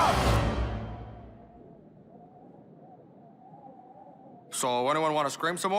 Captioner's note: screaming stops, wind blowing